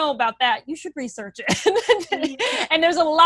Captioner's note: laughs